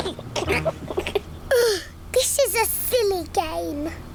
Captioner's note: groans; laughs